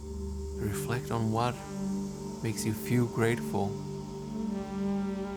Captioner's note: speaks softly